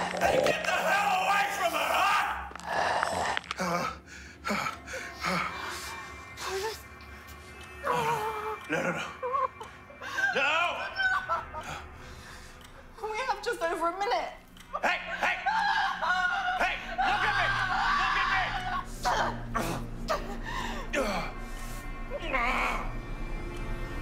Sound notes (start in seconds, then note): 0.0 mummy snarling; 2.5 mummy growling; 6.5 Holly mumbling; 19.0 both grunting; 19.0 intense music